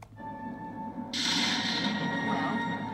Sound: thunderclap

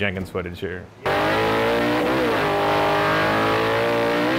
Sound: engine roaring

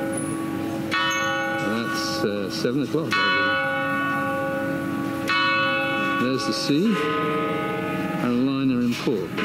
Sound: clock chimes

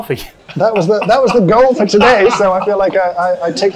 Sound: laughs

